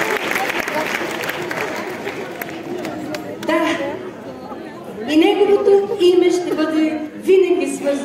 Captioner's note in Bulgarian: аплодисменти